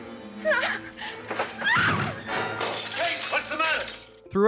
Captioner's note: crash